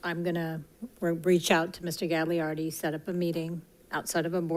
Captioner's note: none